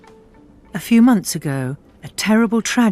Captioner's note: voiceover